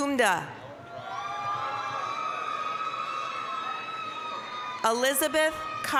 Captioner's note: applause, cheering